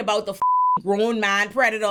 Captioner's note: beep